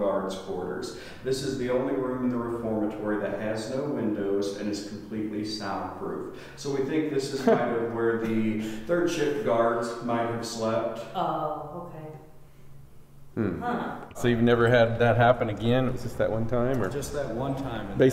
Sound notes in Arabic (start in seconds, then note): 13.3 في وقت واحد: هممممم